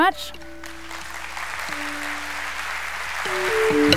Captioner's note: audience claps; uplifting whistling music